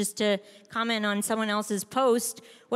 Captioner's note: none